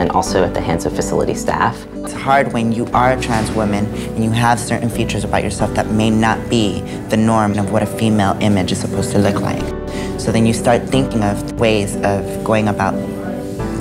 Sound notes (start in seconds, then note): 2.3 voiceover